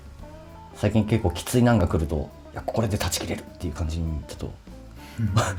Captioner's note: laughs